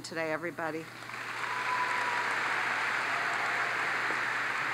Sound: audience applauds

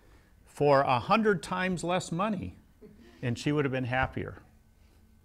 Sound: laughs

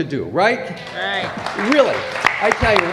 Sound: applause

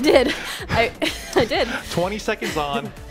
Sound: chuckles

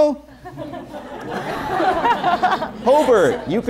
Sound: laughter

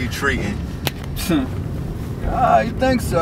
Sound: grunt

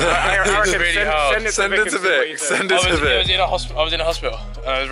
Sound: team laughing and mumbling

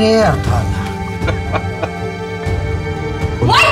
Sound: laughing

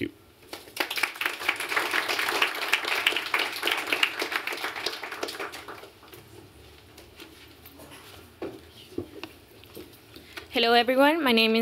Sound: applause

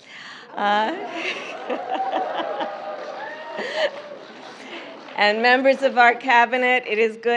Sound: applause

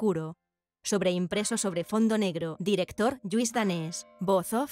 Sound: bells

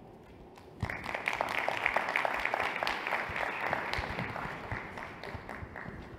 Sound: applause

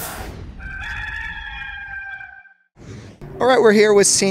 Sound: rooster crowing

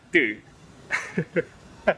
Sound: laugh

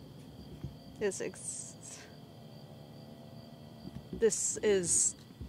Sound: motorbike droning

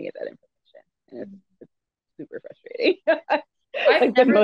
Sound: laughs

